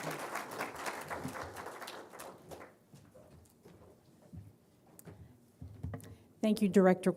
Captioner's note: applause